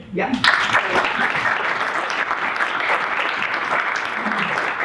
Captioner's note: audience applauding